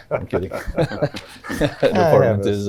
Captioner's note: laughs